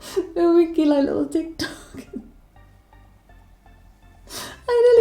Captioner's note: laughs